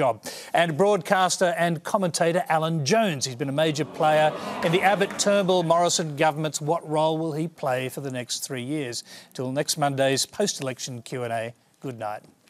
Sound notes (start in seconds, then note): 3.5 crowd groans